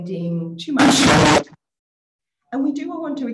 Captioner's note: audio static drowns out speaker